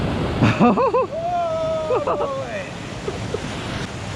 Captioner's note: laughing